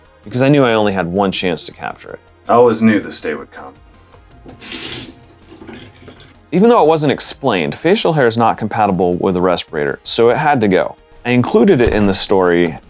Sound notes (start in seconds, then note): 4.1 water running in sink and draining